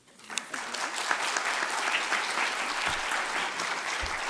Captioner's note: audience clapping